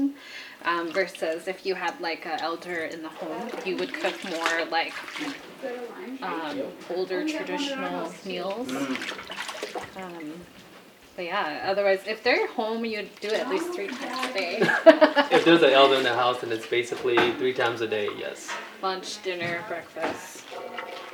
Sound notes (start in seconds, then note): 14.9 laughing